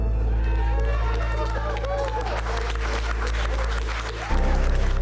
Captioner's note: applause